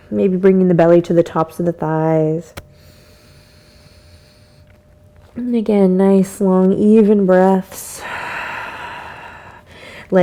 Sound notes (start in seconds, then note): 2.8 inhales; 9.3 exhales